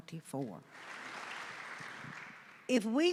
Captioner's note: audience applauding